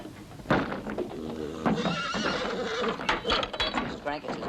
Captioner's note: angry whickering